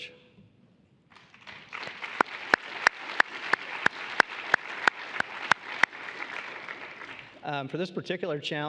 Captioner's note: applause